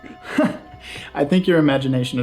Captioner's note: laughs